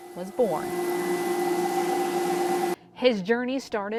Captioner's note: sound of Coffee Roaster